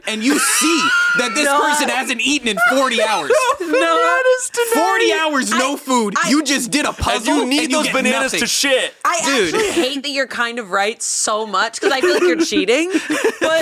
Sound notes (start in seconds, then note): 3.5 laughs